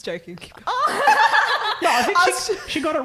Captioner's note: laughing